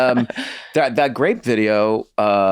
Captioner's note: laughs